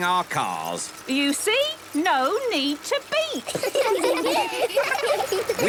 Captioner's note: laughter